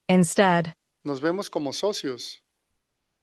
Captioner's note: non-english speech